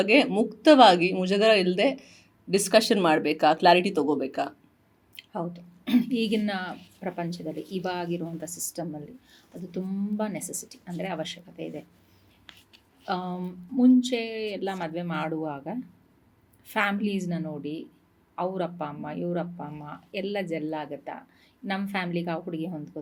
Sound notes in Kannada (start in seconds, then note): 5.8 ಗಂಟಲು ಸರಿಮಾಡಿಕೊಳ್ಳುವಿಕೆ